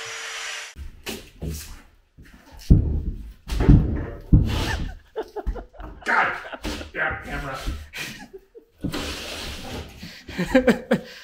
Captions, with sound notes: (boards thumping) (laughing) - God damn camera! (laughing)